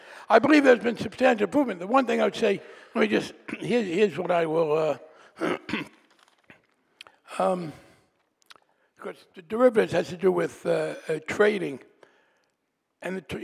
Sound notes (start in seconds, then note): 5.4 clearing throat